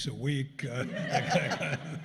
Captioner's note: laughter